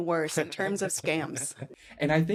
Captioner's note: laughing